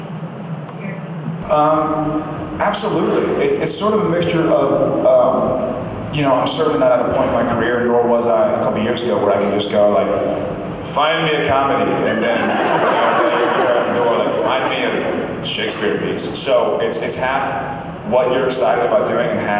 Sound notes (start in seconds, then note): 11.8 laughs